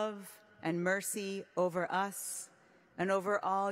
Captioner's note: speaking hebrew